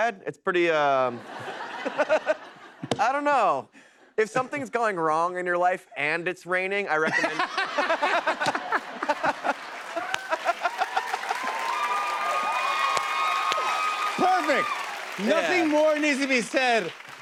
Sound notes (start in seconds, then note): 7.0 laughter; 10.9 cheers and applause